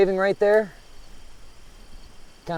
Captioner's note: insects chittering